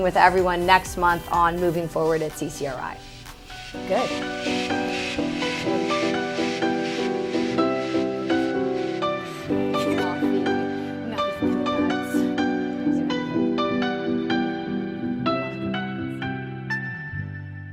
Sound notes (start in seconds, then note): 5.2 upbeat music; 7.6 indistinct conversation